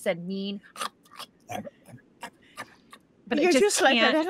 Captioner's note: Deborah chomps